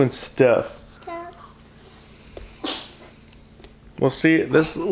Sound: vocalizing

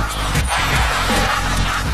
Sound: all laugh

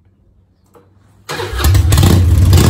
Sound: engine revving

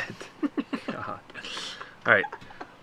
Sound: laughing

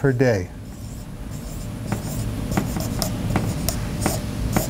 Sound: marker squeaks

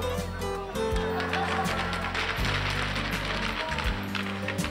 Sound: hockey sticks clacking

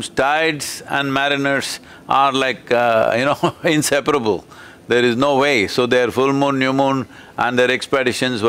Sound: laughs

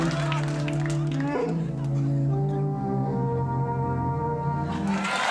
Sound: wookiee language; audience clapping

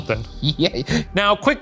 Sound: laughing

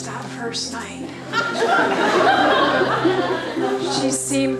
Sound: laughter

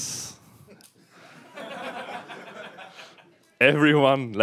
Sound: laughter

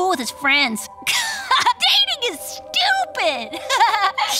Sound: laughing

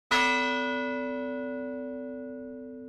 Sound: bell tolls

